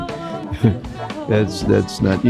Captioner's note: laughing